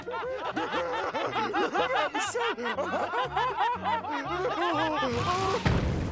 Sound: laughing

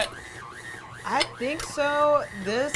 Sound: mixer whirs

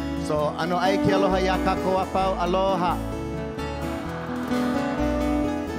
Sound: speaking in Hawaiian

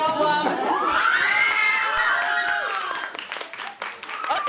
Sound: audience cheering

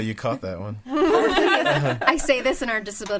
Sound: all laughing

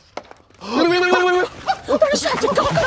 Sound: Blizzard knocking

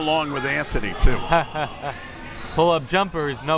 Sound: laughs

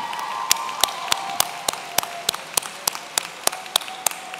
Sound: audience cheering

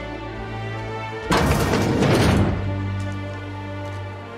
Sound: doors opening

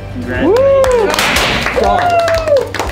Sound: cheers and applause; pops

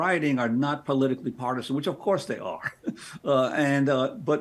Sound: chuckles

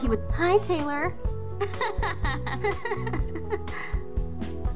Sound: laughs

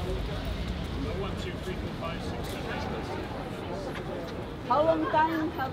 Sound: people chattering

